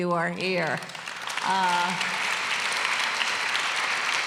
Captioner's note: applause